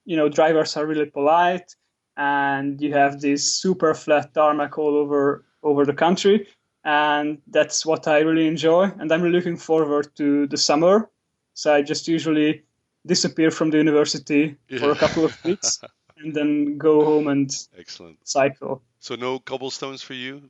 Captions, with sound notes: You know, drivers are really polite and you have this super flat tarmac all over the country, and that's what I really enjoy and I'm looking forward to the summer. So, I just usually disappear from the university. - Yeah. (laughs) - For a couple of weeks and then go home and-- - Excellent. - Cycle.